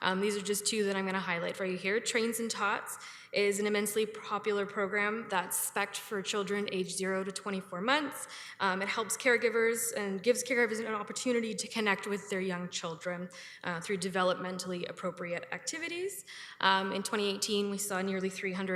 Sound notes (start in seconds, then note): none